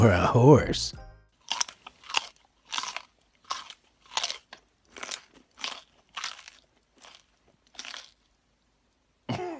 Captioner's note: carrot bite crunches